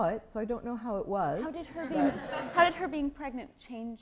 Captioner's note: laughter